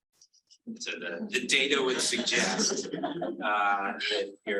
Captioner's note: audience laughing